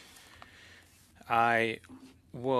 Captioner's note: speaking French